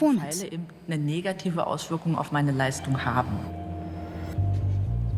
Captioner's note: speaks German